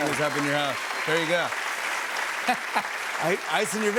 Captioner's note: applause